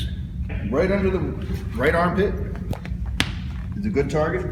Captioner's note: smack